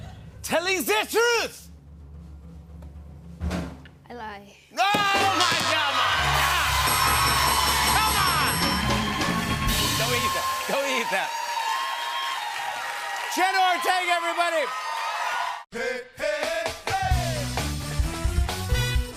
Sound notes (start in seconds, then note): 5.3 buzzer; 6.8 bell dinging; 11.3 cheering and applause